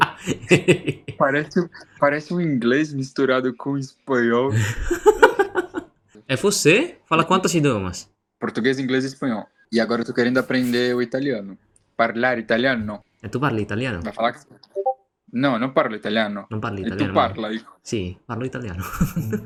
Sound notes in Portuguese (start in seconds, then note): 11.8 Fala Italiano